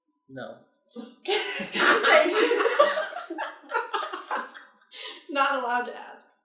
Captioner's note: laughter